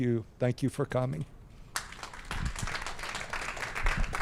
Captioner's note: applause